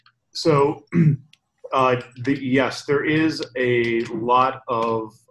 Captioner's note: cough